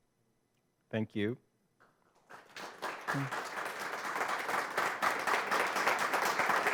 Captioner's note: audience applauds